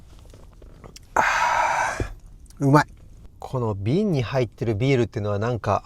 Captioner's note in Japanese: ため息